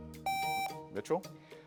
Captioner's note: buzzer beeps